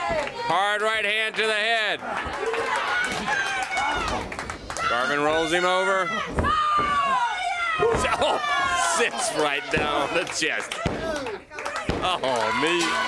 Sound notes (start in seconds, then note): 0.2 crowd cheering; 5.8 crowd chatter